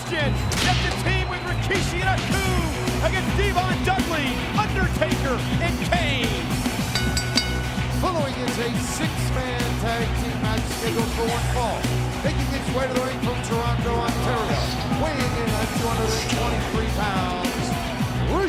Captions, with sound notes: Christian set to team with Rikishi and Haku against D-Von Dudley, Undertaker and Kane. (bell dings) The following is a Six-Man Tag Team Match scheduled for one fall. Making his way to the ring, from Toronto, Ontario, weighing in at 223 pounds, Christian.